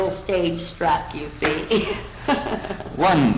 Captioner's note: laughter